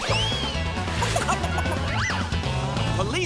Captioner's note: clucking